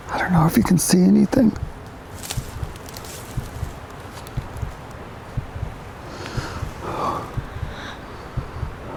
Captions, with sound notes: I don't know if you can see anything. (Leaves rustling) (Nervous breathing)